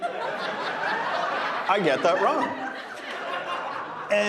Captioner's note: audience laughing